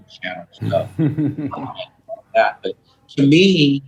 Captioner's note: laughs